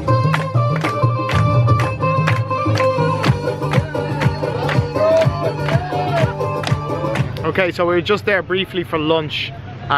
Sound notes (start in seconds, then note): 0.0 traditional music; 0.1 clapping; 4.9 cheering